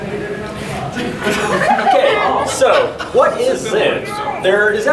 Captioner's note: audience laughing